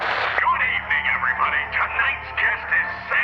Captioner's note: radio scratching; man On Radio